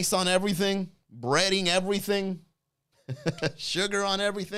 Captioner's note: chuckles